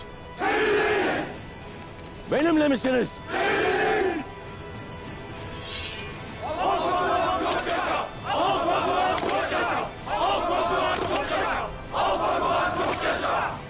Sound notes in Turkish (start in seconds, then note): 0.7 Hepsi birden söylüyor; 3.5 Hepsi birden söylüyor; 5.6 Kılıç sesleri